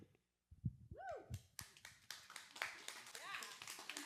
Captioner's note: cheers and applause